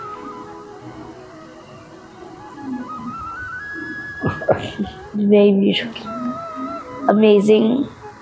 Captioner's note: laughs